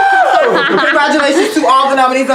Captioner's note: screams